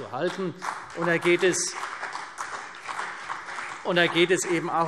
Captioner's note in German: Beifall CDU und BÜNDNIS 90/DIE GRÜNEN